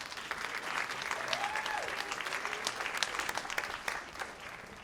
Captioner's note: cheers and applause